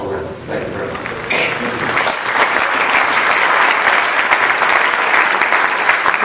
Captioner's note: applause